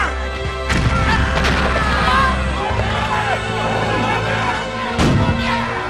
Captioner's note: cannons booming; soldiers screaming